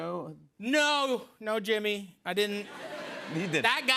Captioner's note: laughter